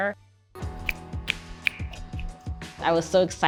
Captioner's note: fingers snap